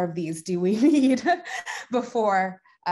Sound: chuckles

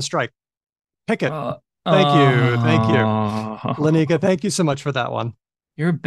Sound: groans

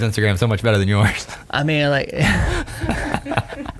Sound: laughter

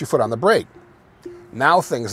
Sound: car beeps

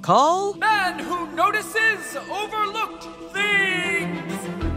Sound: echoing

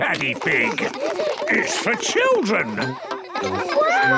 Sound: children laughing

